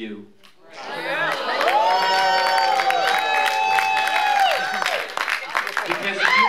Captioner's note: applause